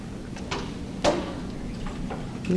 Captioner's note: rustling